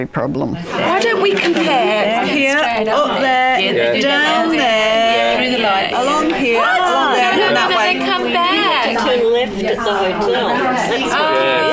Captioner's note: audience chatter